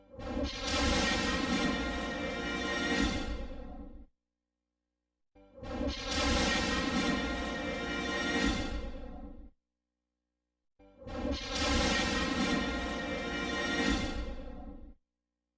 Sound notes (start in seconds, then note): 0.1 lightning crashing down as rousing orchestral fanfare plays; 6.0 lightning and fanfares continuing